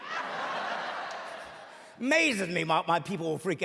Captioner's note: laughing